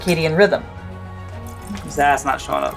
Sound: background music; quiet water sloshing noise

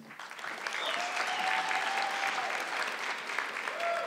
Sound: audience clapping

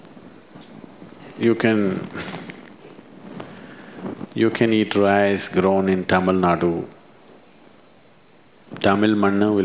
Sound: laughs

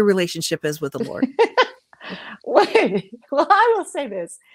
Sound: laughs

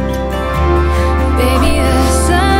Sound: blows birthday candle

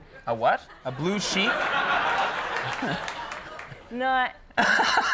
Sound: audience laughs

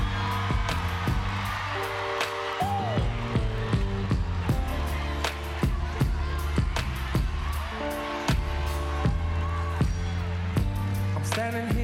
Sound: applause

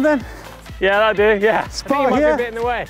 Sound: laughs

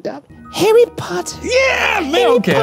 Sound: imitating Dobby

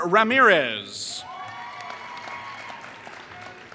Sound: applause

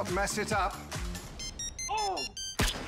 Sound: phone chimes; squibs detonate

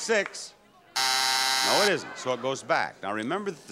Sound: buzzer buzzes

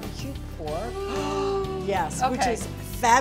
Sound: gasps

